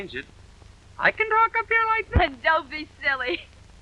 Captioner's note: speaking in a high voice